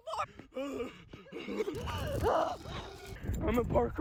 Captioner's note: heavy breathing